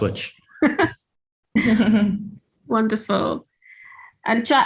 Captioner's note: laughs